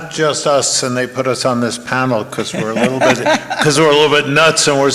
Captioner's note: laughing